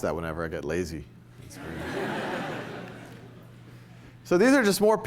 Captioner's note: laughter